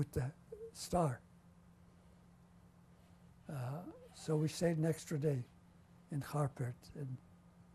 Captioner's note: pauses for 3 seconds